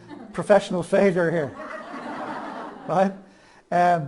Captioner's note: audience laughs